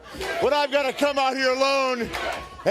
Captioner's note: crowd cheering